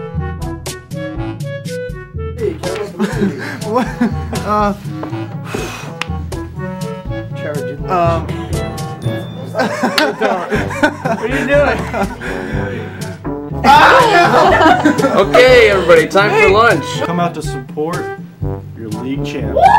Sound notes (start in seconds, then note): 2.9 nervous laugh; 5.4 deep breath; 9.5 laughter; 14.2 continued laughter